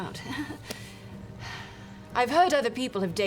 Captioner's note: laughs nervously, sighs